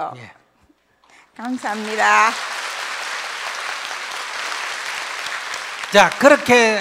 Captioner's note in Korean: 청중 박수